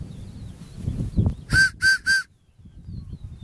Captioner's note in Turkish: Tiz ve yüksek düdük sesi